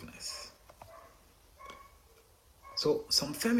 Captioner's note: dog barking